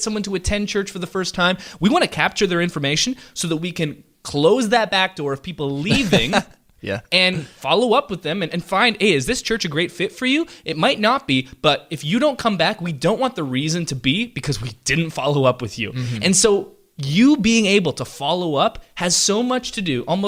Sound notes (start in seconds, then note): 5.8 laughs